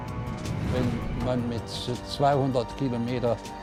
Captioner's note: speaking german